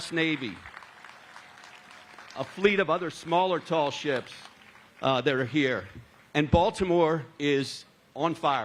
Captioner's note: applause